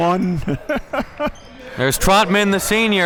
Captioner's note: laughing